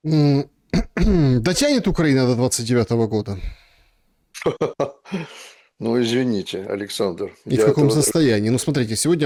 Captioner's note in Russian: смех